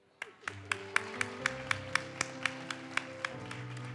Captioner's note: audience applauds